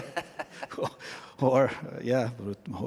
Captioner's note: laughter